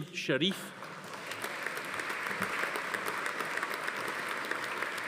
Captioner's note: audience applauding